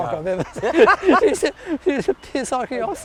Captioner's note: laughs